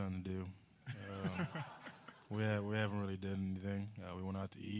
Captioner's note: laughter